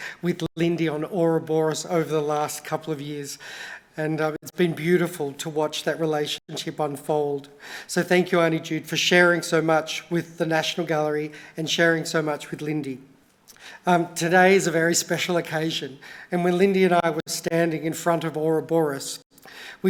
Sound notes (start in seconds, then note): none